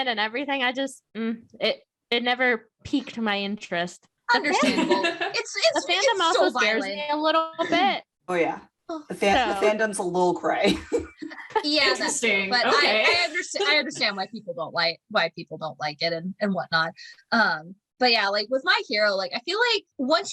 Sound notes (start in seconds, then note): 10.6 laughter